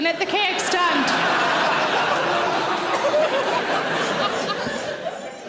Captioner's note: audience laughing